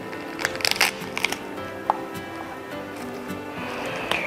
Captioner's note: pomegranate crackles